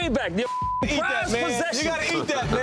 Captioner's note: beep